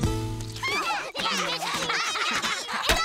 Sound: yelling

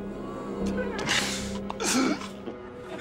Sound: groaning

